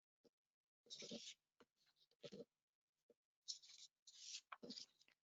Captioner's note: book page flipping